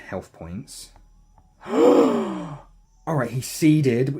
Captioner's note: mega gasp